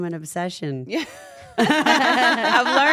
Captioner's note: laugh